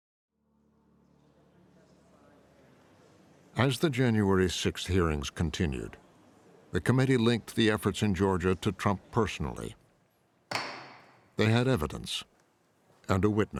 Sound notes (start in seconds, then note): 10.5 gavel bangs